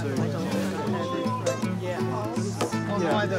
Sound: chatter continues

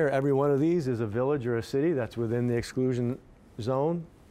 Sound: none

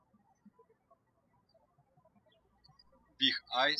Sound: birds chirping

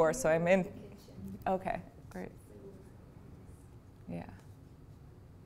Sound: student talks off-camera

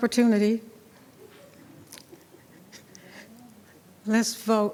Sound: attendees laughing; speaking faintly

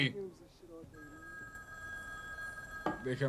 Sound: phone rings

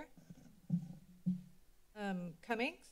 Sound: mic thumping

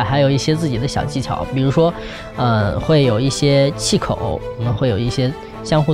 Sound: speaking in foreign language

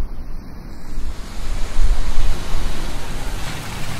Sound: car approaching

